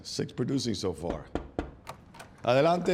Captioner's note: knocking